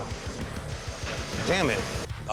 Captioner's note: knife sizzles